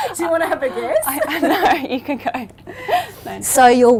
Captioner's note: laughs